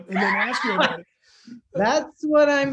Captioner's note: laughter